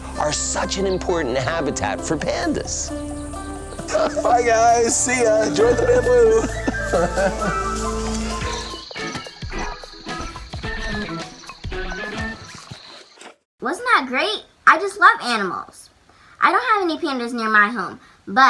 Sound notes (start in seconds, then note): 3.8 chuckles; 9.0 playful music